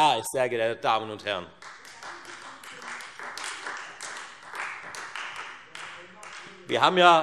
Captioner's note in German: Beifall Freie Demokraten